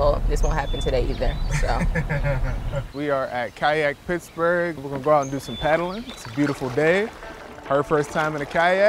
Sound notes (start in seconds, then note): 1.5 chuckles